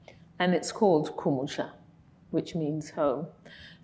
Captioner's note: speaking in foreign language